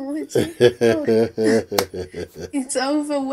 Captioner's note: laughs